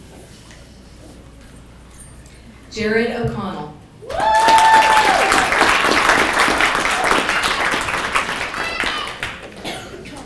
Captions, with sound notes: - Imagine. (people clapping) - Kimberly Nesdit.